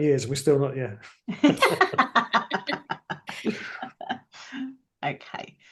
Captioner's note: laughter